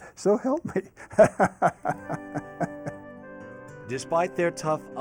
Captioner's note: laughs